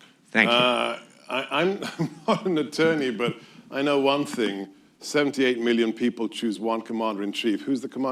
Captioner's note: laughs